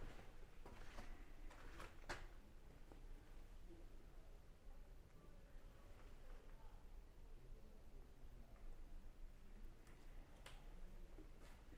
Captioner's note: footsteps